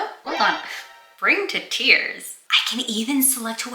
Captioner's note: metal gear solid alert